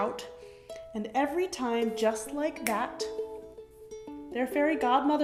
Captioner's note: snaps fingers